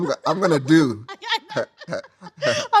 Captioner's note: laughing